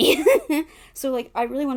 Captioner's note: laughs